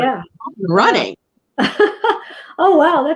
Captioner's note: laughs